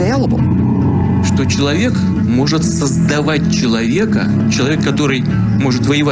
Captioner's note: speaks in foreign language